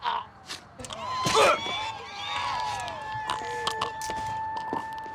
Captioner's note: passengers yelling; sirens approaching